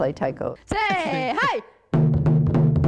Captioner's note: chanting; drumming